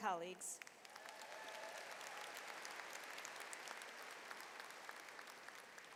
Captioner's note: audience cheers and applauds